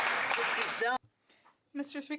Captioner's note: applause